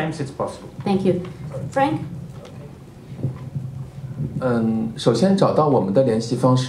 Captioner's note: speaking Mandarin